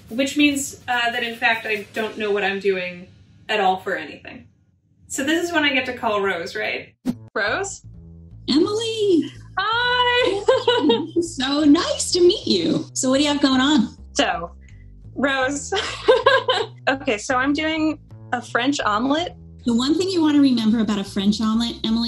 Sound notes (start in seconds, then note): 15.7 laughing